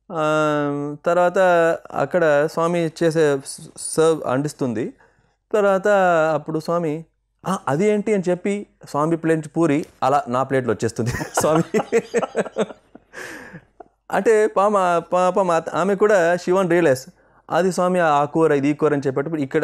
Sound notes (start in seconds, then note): 11.2 laughs